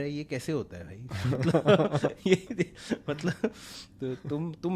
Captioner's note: laughs